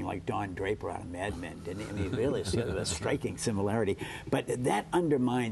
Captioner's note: laughter